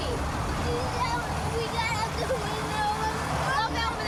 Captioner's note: speaking tearfully